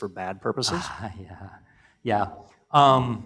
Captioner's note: laugh